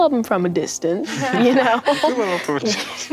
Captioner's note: laughing